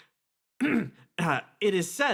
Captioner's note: clears Throat